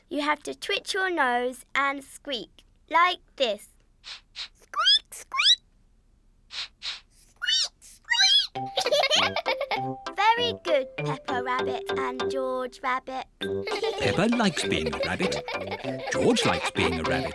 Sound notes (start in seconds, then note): 4.8 sniffs and squeaks; 6.5 both sniff and squeak; 9.7 giggling; 13.6 all giggle